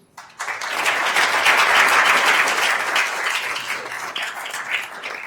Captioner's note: attendees applauding